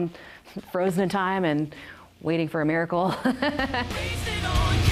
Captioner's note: risos